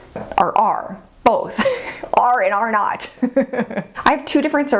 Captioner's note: laughs